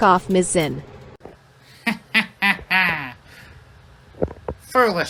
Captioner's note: chuckles